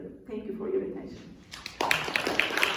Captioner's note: applause